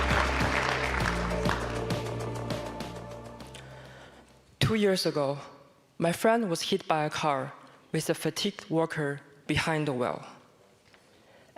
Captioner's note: applause